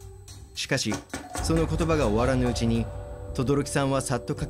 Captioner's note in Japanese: 足早な足音：タタタタ！